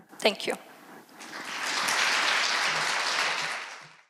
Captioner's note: applause